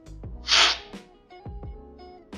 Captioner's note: slurping